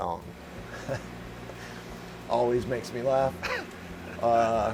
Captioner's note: chuckles